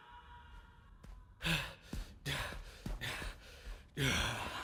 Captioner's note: panting; groans